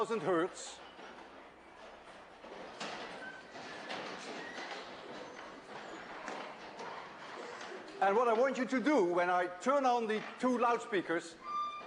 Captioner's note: sound of people standing up, chairs flipping